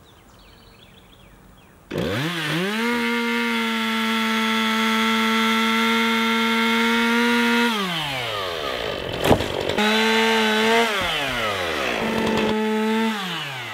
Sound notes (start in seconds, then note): 0.0 birds singing, wind; 1.8 buzzing of a chainsaw